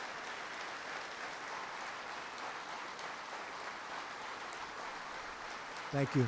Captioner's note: applause